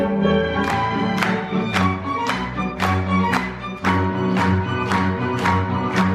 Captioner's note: romantic string music; audience clapping rhythmically